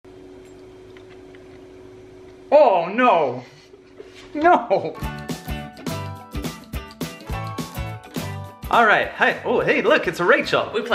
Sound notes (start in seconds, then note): 3.4 laughing; 4.9 upbeat instrumental music